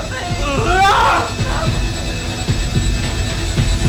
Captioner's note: David groaning; suspenseful music